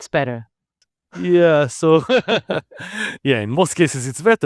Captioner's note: laughs